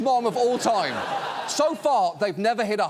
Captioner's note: studio audience laughs